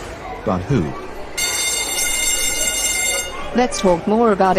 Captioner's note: school Bell Rings